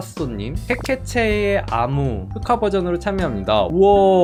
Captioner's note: voiceover